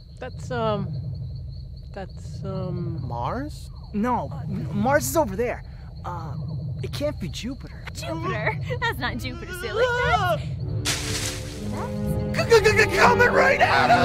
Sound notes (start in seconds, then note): 5.6 distant whirring; 10.8 leaves rustling